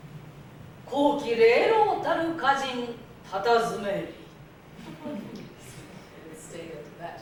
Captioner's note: speaking Japanes